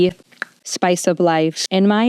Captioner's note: popping noise